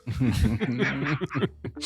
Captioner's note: laughing